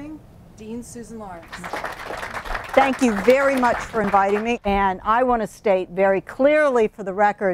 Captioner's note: clapping